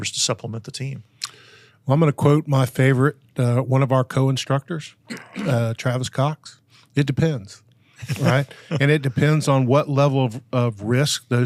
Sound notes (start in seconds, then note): 8.0 all laughing